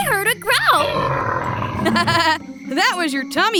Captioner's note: growls